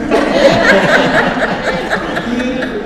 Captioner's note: audience laughs